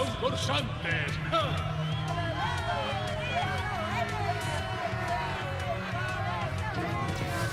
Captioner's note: crowd cheering